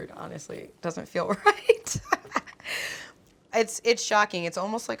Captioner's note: laughs